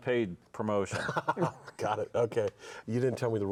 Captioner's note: laughs